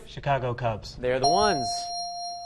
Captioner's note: ding